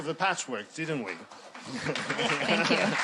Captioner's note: applause